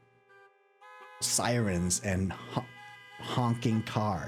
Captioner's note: car horn noises